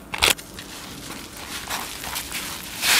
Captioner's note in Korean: 면발 비비는 소리